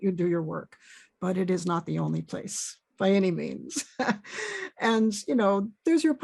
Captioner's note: chuckles